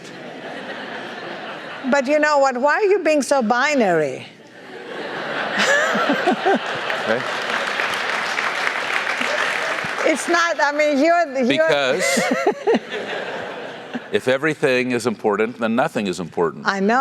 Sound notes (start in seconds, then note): 0.6 laugh; 4.7 laugh; 6.6 applause; 11.6 laugh